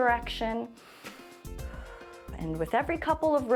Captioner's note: inhales and exhales